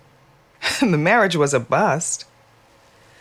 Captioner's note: laughs